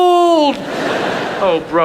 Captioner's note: audience laughs